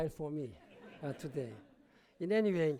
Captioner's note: laughter